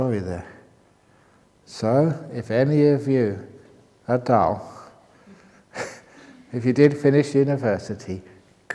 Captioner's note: chuckle